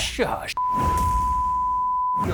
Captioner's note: tone beeping; drumbeat thumps